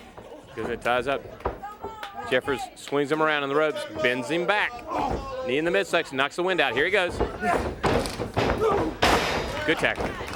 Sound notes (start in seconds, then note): 1.2 crowd cheering; 1.3 crowd chatter